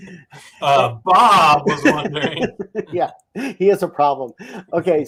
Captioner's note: laughs